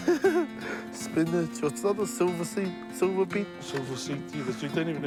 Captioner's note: giggles